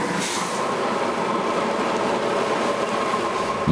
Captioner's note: machine noise